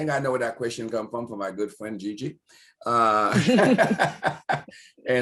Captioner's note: laughter